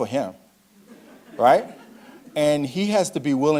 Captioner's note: audience laughing